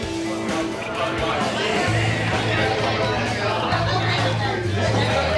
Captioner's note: indistinct customer chatter